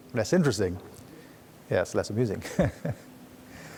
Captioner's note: laughs